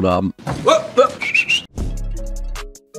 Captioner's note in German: Pfiffe; Lockere Klänge